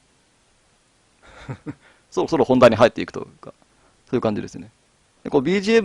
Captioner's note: laugh